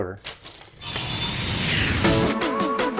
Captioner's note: saw blade buzzes; upbeat music